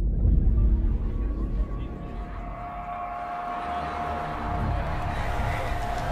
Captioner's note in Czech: mluvení na pozadí